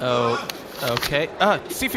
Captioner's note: C-53 yells in the distance